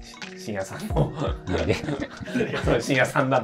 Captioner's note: laughing